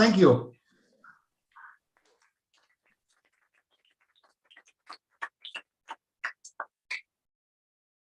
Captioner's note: applause